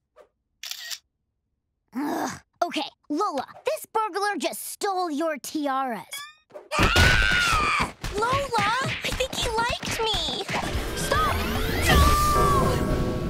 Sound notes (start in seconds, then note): 0.6 camera shutter; 6.7 screams